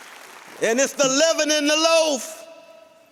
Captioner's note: applause